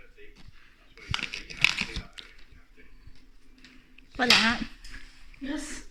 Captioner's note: rustling